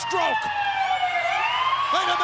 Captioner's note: sirens wailing